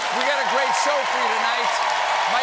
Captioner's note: cheers and applause